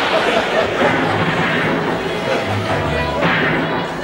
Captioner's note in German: Schüsse im Fernsehen